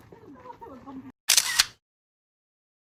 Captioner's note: camera shutter